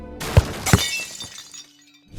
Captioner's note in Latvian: bam